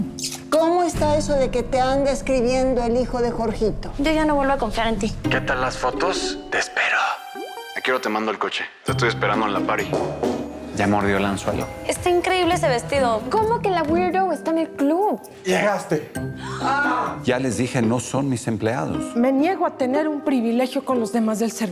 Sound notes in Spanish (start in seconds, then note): 16.5 Grito ahogado; 16.6 Grito